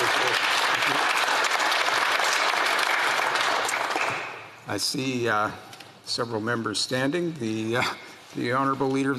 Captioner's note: some Applause